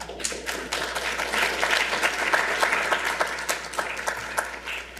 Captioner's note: audience applauding